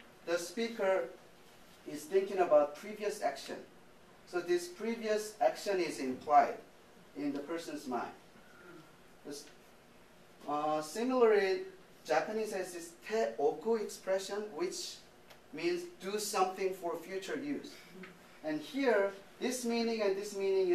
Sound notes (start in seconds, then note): 0.0 speaking japanese; 12.6 speaking japanese